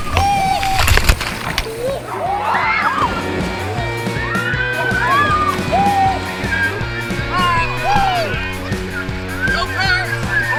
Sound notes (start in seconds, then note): 3.1 screaming; 7.1 splashing; 8.9 screaming